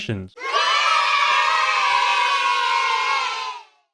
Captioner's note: kids cheering